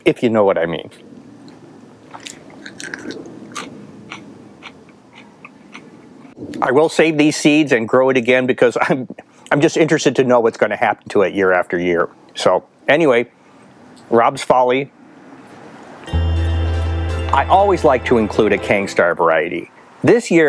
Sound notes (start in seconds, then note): 2.1 chewing